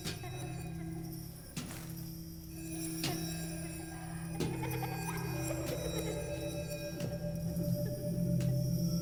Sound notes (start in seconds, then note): 2.3 tinkling bells in the distance